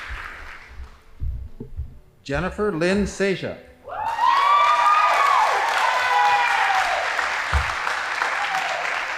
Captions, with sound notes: Jennifer Lynn Sasha. (audience applauding)